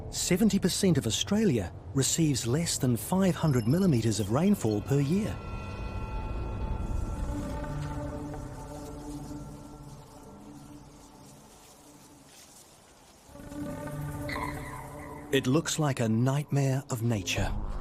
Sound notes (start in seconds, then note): 6.7 grasses rustling; 7.4 intense music